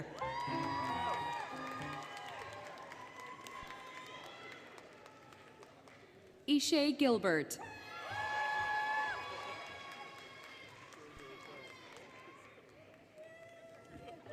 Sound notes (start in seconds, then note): 0.0 applause, Cheering, Music; 3.1 applause, Cheering; 7.8 applause, Cheering